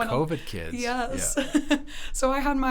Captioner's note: laughs